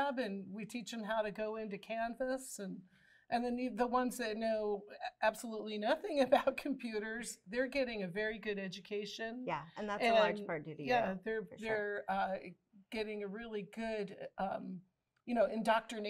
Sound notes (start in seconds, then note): none